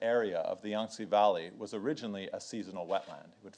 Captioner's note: speaks in foreign language